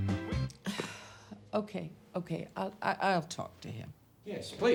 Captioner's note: sighs